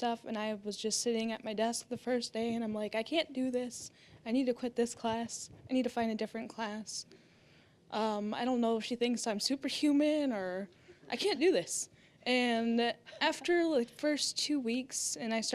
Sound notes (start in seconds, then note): 11.8 audience laughing